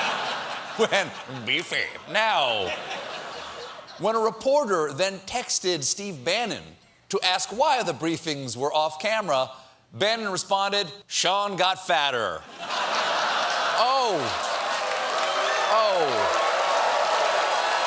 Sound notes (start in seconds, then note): 14.0 applause; 14.6 cheers